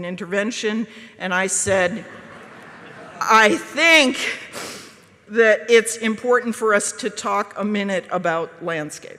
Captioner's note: audience laughs